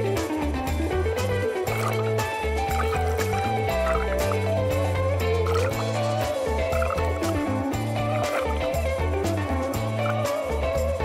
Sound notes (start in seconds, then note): 2.1 happy jazz music; 2.7 water splashing